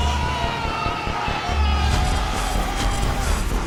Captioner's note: shouts